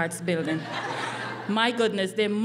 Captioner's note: laughing